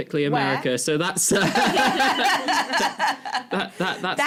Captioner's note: laughter